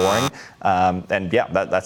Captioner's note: buzzer sounding